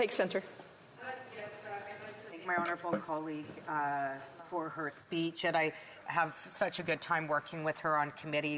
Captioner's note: off mic